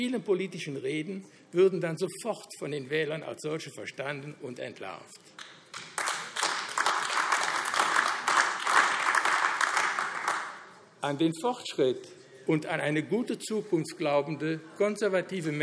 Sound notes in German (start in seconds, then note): 5.3 Beifall AfD